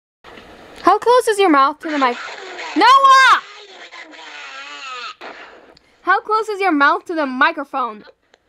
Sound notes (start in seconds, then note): 1.8 demon noises